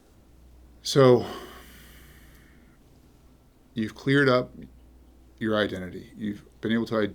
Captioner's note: sighs